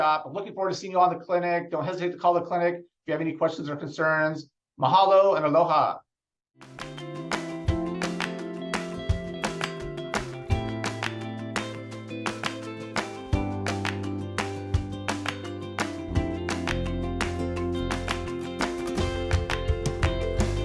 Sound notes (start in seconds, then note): 7.5 upbeat music; 13.2 rhythmic clapping